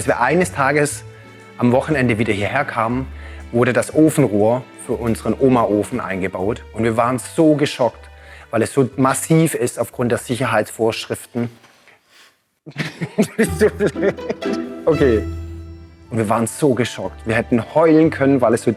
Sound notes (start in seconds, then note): 12.6 laughter